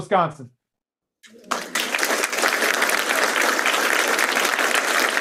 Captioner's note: applause